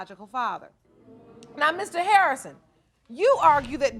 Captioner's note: audience murmuring